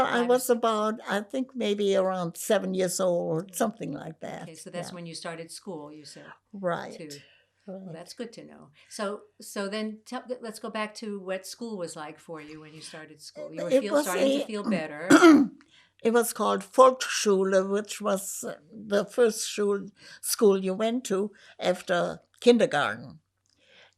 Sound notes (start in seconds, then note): 15.1 clears throat